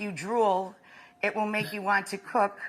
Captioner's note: Stanley chuckles